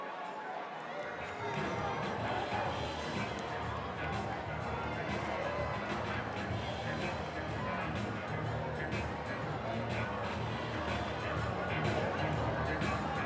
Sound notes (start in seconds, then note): 0.0 background chatter